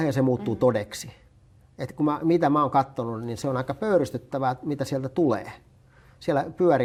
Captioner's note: on Russian television